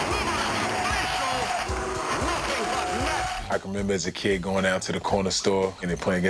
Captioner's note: shouts